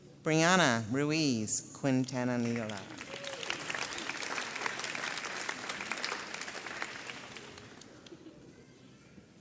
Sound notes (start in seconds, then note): 2.5 audience applauds